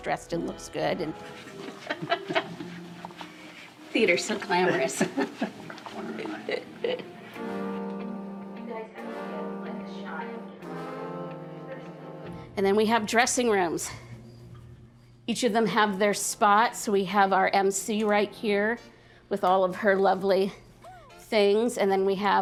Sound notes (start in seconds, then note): 1.2 laughs